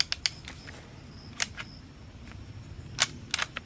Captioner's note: gun clicks